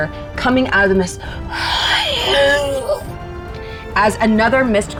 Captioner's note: groans